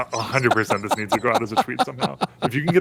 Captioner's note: laughter